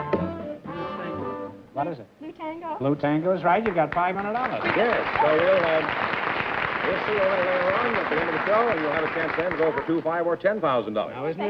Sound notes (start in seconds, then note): 3.5 applause